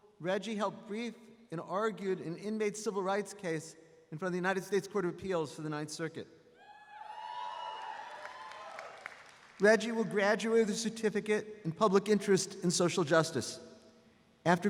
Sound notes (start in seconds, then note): 7.2 audience applauds